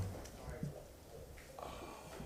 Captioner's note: sounding gavel